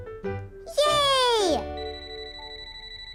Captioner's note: phone beep